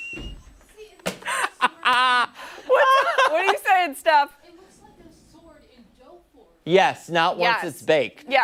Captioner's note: laughter